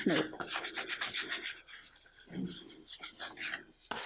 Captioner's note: rubbing